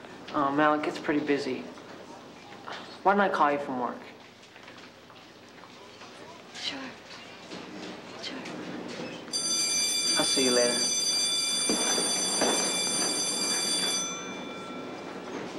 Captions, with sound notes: Oh, Mel, it gets pretty busy. Why don't I call you from work? Sure. Sure. [bell ringing] I'll see you later.